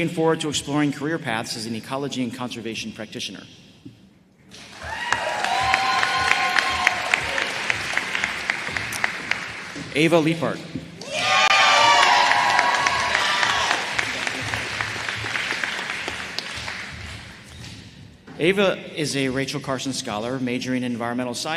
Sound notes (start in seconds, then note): 9.4 applause